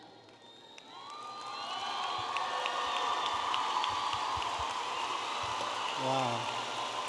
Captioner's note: audience applauding and cheering